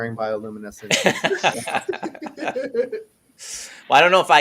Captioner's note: laughing